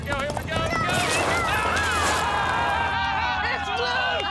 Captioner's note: cheering